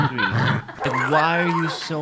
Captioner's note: dog growling